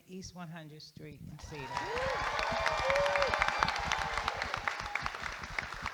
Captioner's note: audience applauding